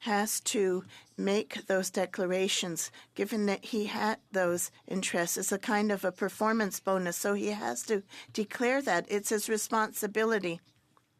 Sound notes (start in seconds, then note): 7.9 speaking French